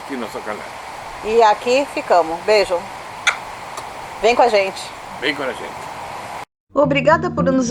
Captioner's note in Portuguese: som de beijo